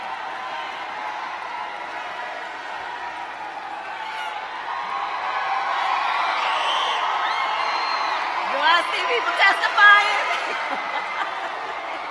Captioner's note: applause